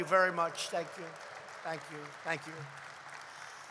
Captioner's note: applause